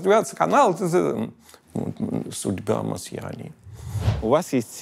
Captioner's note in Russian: пародирует акцент